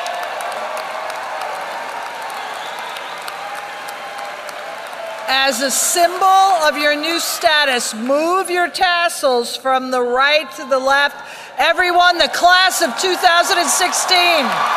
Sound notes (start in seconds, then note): 4.1 applause; 13.4 applause